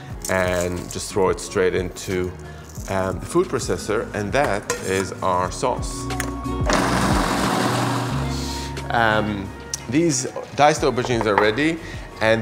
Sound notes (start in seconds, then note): 6.0 upbeat music; 6.7 machine whirring